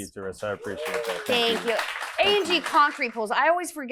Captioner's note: audience applauding